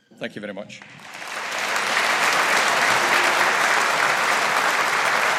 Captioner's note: audience applauding